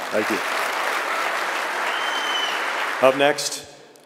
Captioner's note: audience clapping and cheering